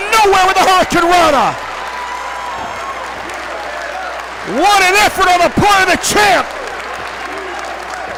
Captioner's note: applause